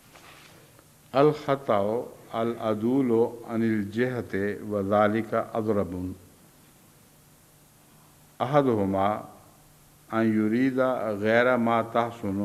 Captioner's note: Arabic